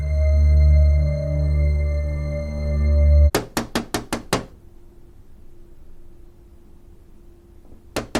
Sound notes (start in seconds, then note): 3.3 Nick knocking